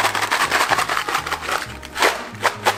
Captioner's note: shaking sounds